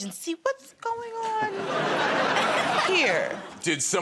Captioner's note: laughter